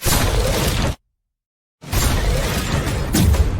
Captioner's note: gun Fire